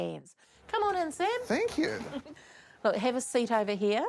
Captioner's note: chuckles